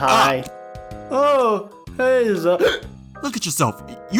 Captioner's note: Hic